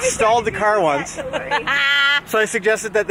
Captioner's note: laughing